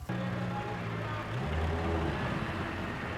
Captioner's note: engine sound